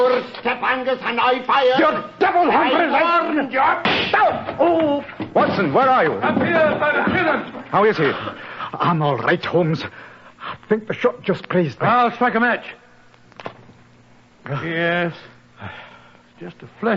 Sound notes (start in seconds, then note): 3.8 shot